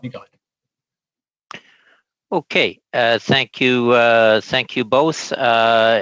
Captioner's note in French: voix de l'interprète